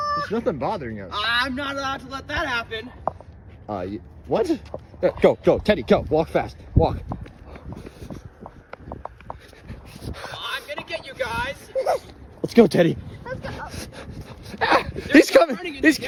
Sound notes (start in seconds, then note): 11.0 squeals